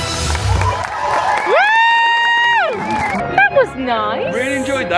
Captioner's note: Mickey speaking French; audience applauding; cheering